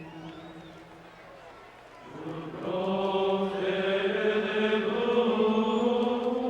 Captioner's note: crowd cheering continues; singers chanting continues